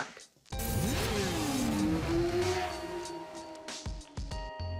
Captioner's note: motorcycle zooms